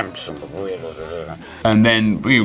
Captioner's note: grumbles